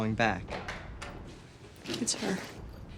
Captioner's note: door clicks